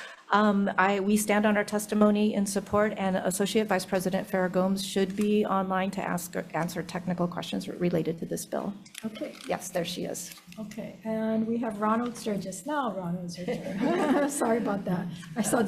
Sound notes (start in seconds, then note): 13.4 group laughing